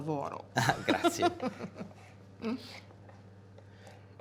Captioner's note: laughing